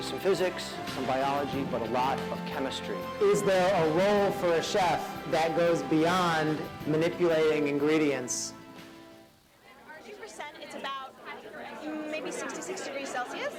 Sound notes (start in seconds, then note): 9.4 indistinct chatter